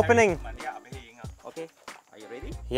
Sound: speaking in foreign language

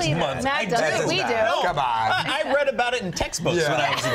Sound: laughter

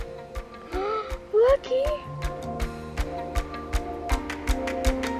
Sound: gasps

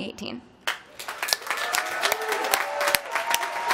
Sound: applause

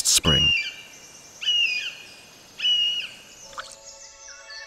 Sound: sounds of nature; music, sounds of nature

